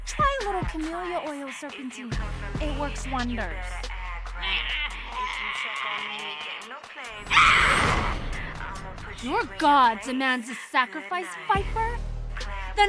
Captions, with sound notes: Try a little camellia oil Serpentine, it works wonders. (Queen Serpentine grumbles) (Queen Serpentine yells) Your god demands a sacrifice, viper?